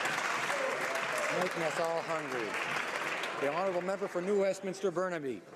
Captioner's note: some Applause